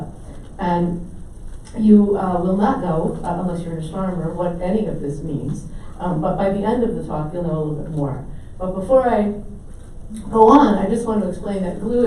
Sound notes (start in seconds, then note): none